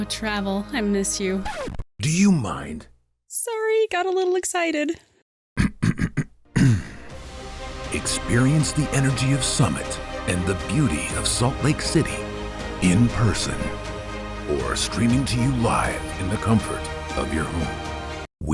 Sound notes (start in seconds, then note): 1.5 tape scratch; 6.5 clears throat